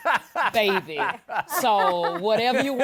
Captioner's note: both laugh